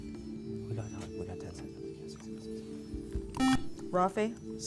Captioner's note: whispering